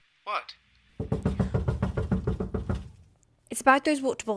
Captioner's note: knocking